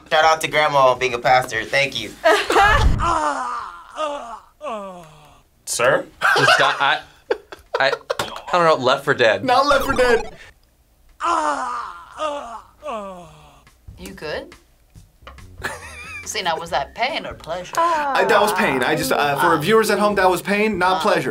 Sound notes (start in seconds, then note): 2.3 both laugh; 3.0 man groans; 5.9 React laughs; 11.2 man groans; 15.6 React laughs